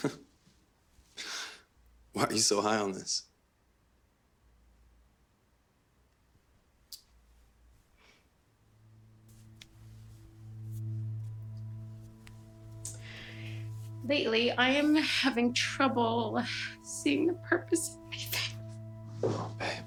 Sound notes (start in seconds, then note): 0.0 Michael chuckling; 10.7 light dramatic music; 13.6 Ally sighs